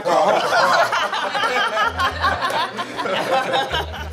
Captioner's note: laughter